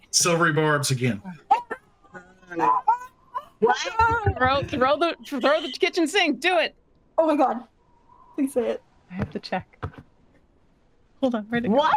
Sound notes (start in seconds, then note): 1.3 cast members laughing; 2.4 exclaiming in surprise